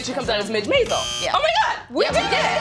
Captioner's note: buzzer